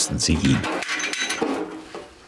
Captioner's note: clattering